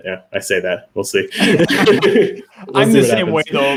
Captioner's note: laugh